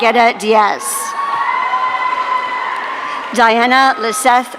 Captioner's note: audience cheering